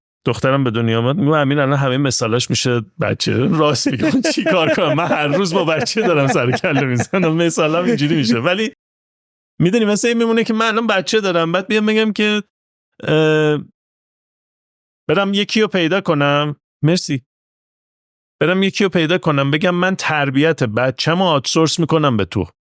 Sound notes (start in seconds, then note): 3.3 laughs